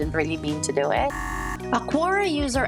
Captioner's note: buzzer buzzing